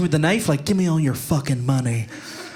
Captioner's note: audience laughing